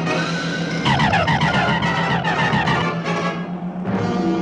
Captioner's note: zapping